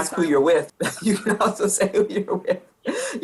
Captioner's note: laughing